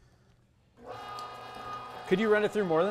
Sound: machine roaring

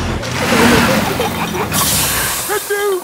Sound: peppa and george giggling; air hisses

